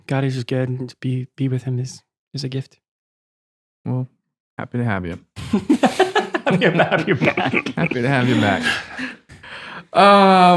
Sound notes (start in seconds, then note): 5.4 laughing